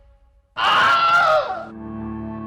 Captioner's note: yelling